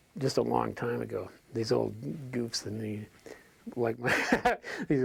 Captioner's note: laughs